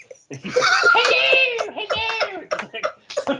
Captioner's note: all laugh